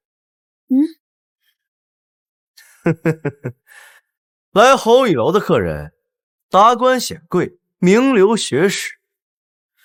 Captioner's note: laughs